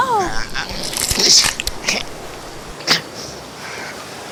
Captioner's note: uncle groaning